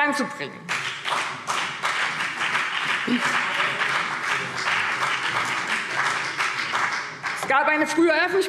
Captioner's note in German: Beifall BÜNDNIS 90/DIE GRÜNEN und vereinzelt CDU